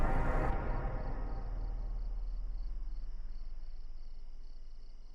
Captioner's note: crickets chirping